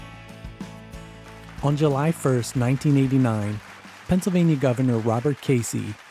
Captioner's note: voiceover